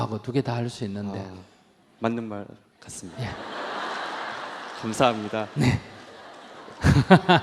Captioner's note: audience Laughter